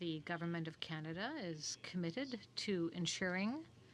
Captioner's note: speaking french